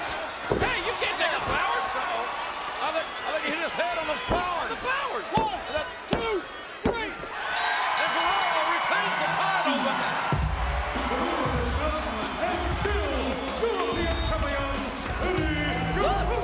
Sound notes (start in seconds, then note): 7.7 crowd cheering; 7.8 bell ringing